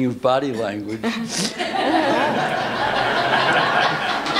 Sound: laughter

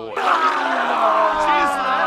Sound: vomiting sounds

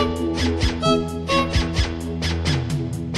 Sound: honk

